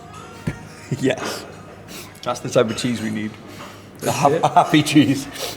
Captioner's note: laughs